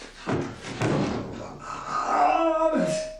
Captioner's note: groans